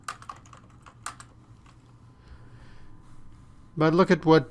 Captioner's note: typing